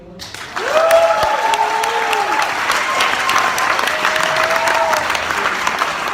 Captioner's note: applause & cheers